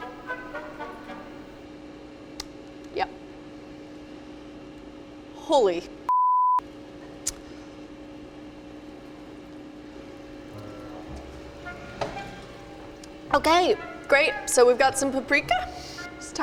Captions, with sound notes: Yep. Holy (beep). (lighthearted music) Okay, great, so we've got some paprika.